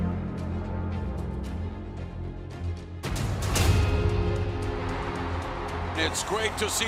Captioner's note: crowd cheering